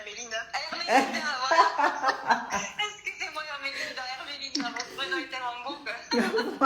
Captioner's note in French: Rires